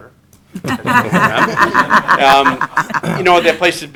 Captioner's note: group laughter